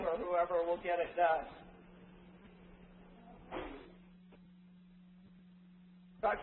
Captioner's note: silence